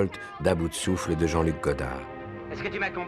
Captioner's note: Breathless